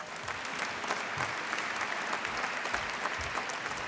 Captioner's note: applause